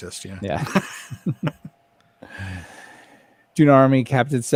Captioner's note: laughs